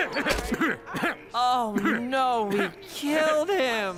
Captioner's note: coughing